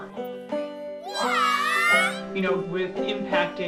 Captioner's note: children shouting in unison